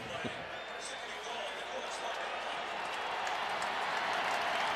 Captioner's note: pa announcement; cheering